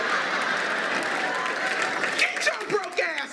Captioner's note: laughter